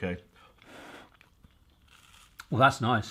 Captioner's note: heavy blowing